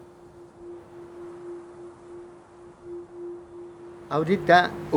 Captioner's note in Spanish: Sonido de viento